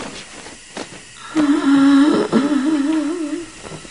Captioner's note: moaning